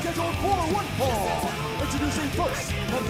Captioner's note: bell ringing